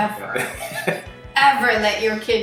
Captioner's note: laughs